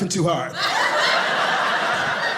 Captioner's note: audience laughing